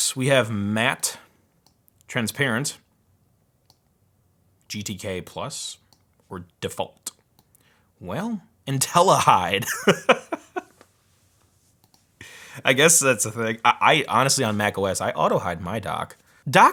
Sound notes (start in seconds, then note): 9.6 laughs